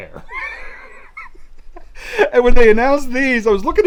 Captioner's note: laughing